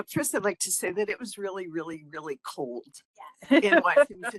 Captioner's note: laughing